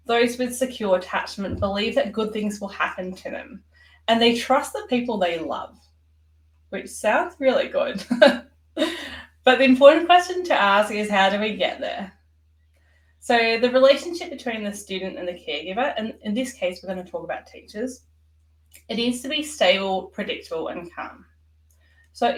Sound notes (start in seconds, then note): 8.0 chuckles